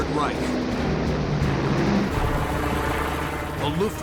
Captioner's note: engines roaring